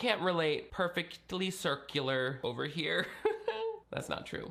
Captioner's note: chuckles